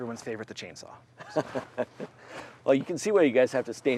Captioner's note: laughing